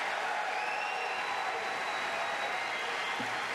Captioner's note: applause